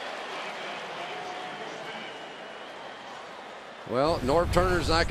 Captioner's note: pa announcement